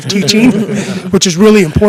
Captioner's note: laughing